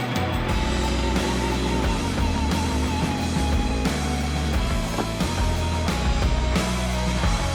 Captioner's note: upbeat music continues; saw whirring continues